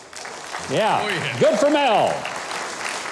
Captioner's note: audience clapping